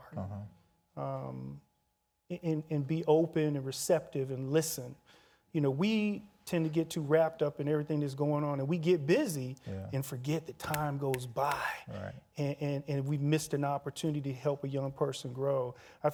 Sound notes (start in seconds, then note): 10.6 snapping